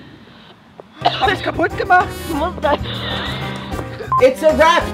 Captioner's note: coughs